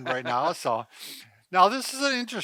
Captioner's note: laughs